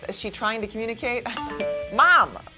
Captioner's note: message alert